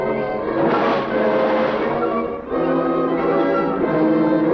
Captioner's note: water splashing